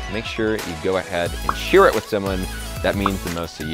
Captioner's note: emoticon popping